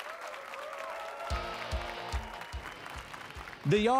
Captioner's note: applause and cheers